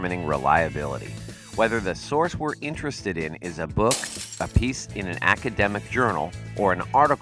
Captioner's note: book lands on tablet and smashes screen